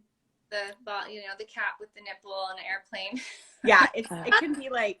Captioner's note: chuckle